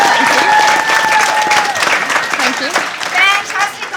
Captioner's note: cheering and applause